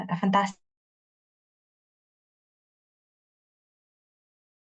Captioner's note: audio mutes